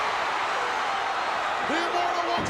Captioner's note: crowd cheers